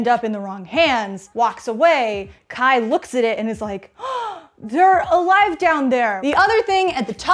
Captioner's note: gasp